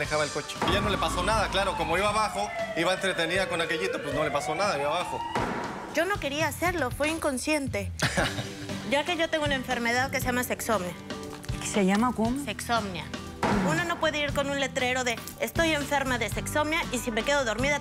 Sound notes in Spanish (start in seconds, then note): 8.0 él ríe